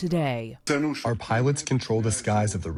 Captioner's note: through translator